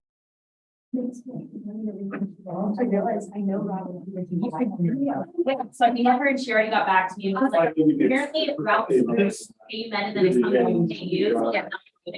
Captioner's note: audience chatter